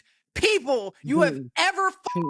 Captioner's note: beep